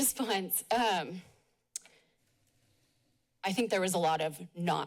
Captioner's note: smacks lips